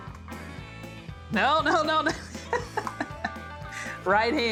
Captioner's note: laughing